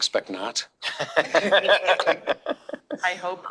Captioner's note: all laughing